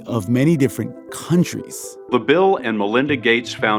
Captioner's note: soundbite of archived recording